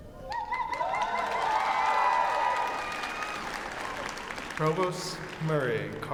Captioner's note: cheering